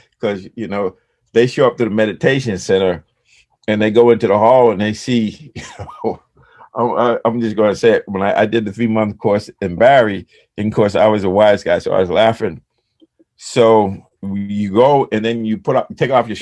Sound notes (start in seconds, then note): 5.3 laughs